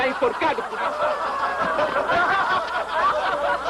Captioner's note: laughter continues